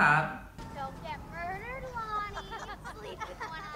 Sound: kids laughing

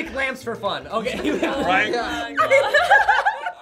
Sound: group laughs

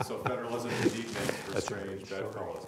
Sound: laughter

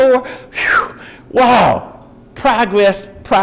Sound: exhales

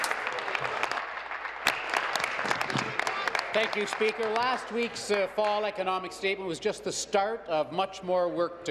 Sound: applause

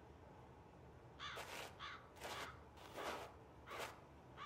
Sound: crow caws

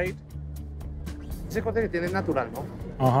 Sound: speaking Spanish

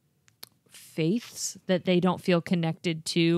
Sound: none

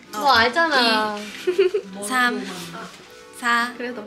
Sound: hahahaha

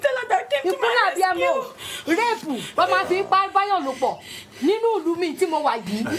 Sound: woman speaking in foreign language

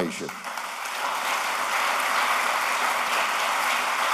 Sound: applause

